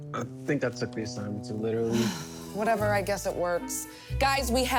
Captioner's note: sighs